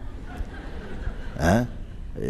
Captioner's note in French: rire